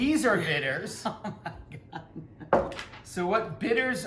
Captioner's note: laughing